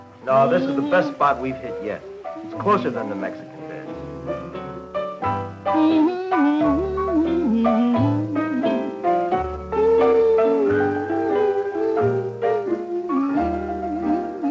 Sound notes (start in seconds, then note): 3.9 humming, vocalizing